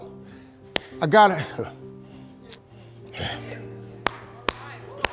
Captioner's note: audience applauding